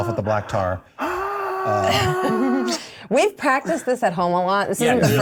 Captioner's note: yelling